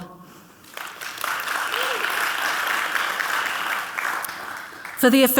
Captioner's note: audience clapping